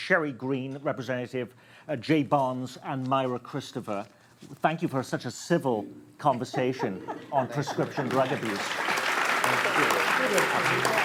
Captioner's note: applause